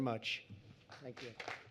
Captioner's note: applause